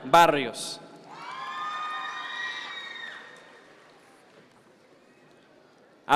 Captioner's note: audience members cheer